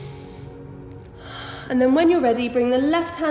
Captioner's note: heavy breathing